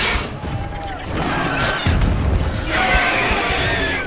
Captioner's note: screech; ground rumbles; snarl; shriek